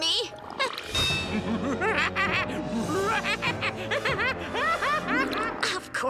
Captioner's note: evil laughing